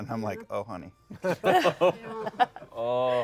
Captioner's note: laughter